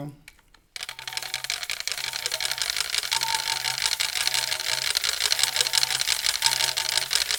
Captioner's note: rhythmic rattling